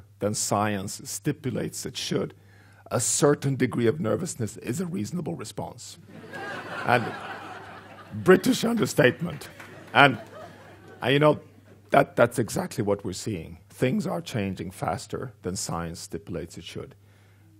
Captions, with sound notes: "than science stipulates it should, "a certain degree of nervousness is a reasonable response." (laughing) British understatement, and that's exactly what we're seeing. Things are changing faster than science stipulates it should.